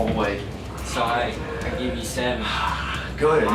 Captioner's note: indistinct chatter